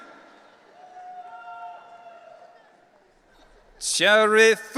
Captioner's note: audience cheering